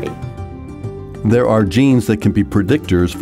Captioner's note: voiceover